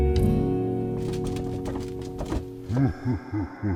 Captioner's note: trash bin rattling; evil tiki laugh